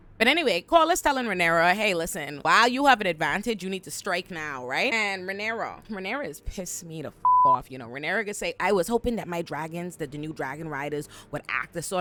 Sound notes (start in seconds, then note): 7.2 beep